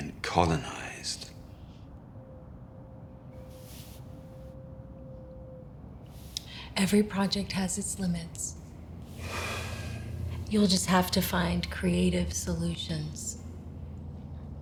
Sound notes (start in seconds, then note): 9.2 sighs